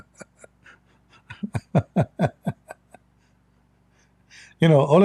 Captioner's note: Ketawa